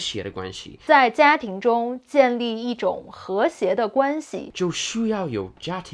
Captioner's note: speaking in Mandarin